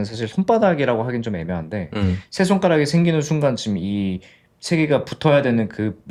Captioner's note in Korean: 목을 가다듬음